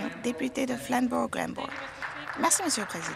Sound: applause

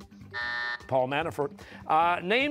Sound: buzzer

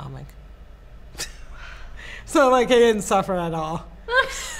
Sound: laughs

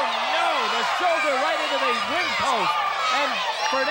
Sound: crowd counts hits

